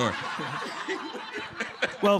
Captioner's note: laughter